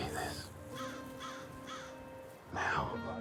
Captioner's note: bird cawing